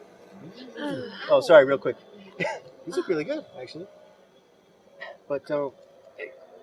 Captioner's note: sigh